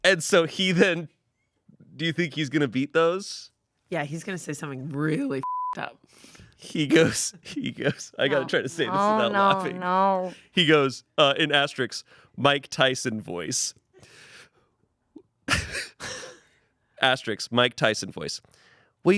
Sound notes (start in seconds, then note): 5.4 beep; 6.7 laughs; 14.7 laughs